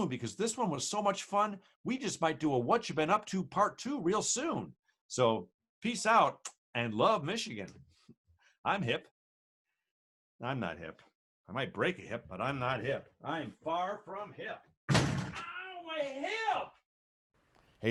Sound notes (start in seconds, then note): 6.2 kisses; 14.9 thudding loudly; 15.7 protesting loudly